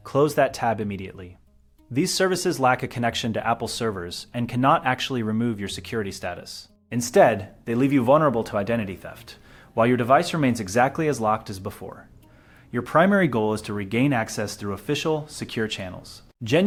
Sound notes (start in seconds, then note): 2.4 speak with an informative, steady tone